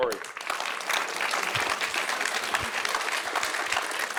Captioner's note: audience applauding